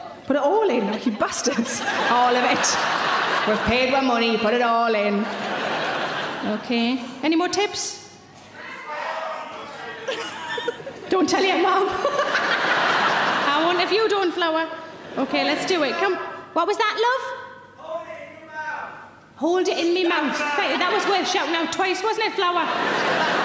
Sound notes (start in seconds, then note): 2.8 audience laughing; 8.5 audience shouting; 12.8 laughing; 23.2 audience laughing